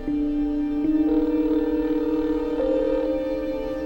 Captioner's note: le téléphone sonne